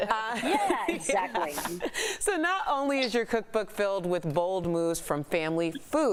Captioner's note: laughter